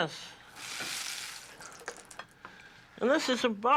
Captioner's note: sizzle